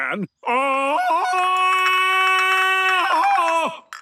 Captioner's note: Tarzan call